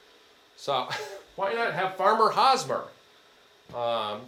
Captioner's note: chuckles